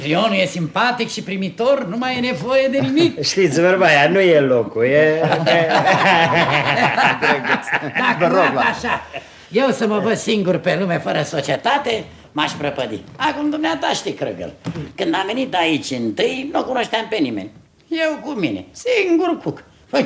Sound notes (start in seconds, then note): 5.2 laughs heartily